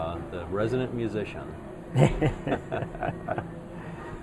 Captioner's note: laughs